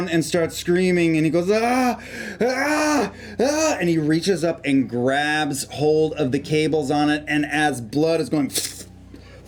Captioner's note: screams